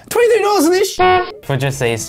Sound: honk

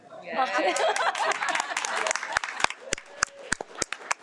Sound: audience applauds

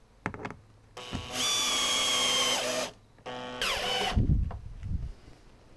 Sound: electric drilling noise

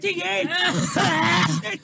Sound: coughs

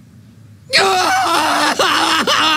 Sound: screaming

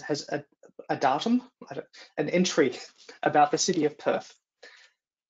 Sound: laughs

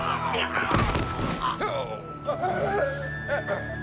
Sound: grunting

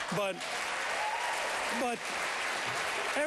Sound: applause

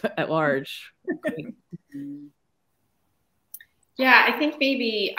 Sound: laughing

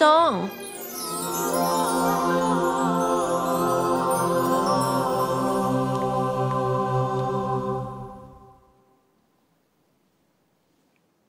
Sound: magical noises

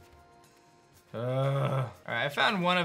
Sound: grunts

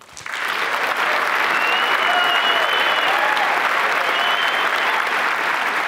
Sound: applause

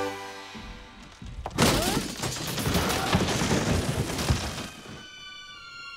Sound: sound of wood splintering

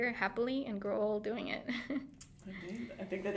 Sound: laughing

